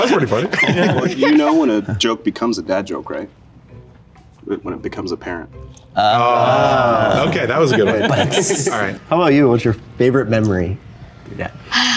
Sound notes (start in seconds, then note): 0.0 group laughing; 6.4 group laughing